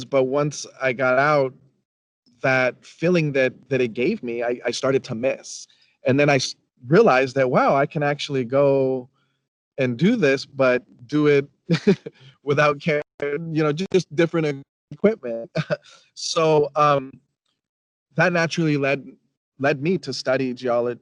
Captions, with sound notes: but once I got out that feeling that it gave me, I started to miss. And then I realized that, wow, I can actually go and do this, but do it (chuckles) without, just different equipment. That naturally led me to study geo,